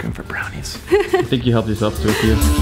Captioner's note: giggling